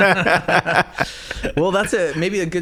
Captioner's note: laughing